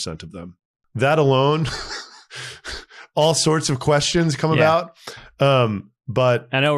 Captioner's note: laughs